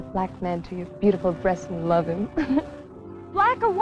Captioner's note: laughs